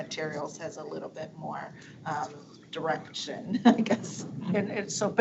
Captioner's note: chuckling